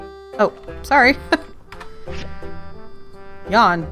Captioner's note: laughs